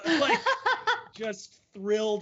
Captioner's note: laughing